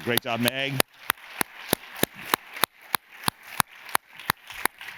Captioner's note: audience claps